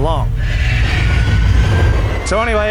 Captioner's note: t-rex roar